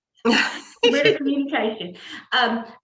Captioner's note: laughs